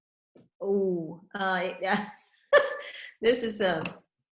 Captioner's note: laughs